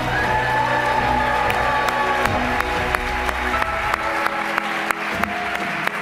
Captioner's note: applause